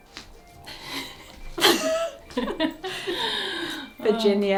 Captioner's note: both laugh